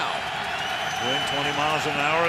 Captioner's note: cheering